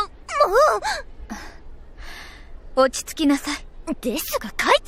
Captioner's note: sigh